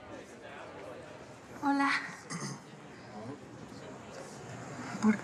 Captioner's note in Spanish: Carraspea